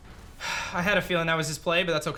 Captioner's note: sighs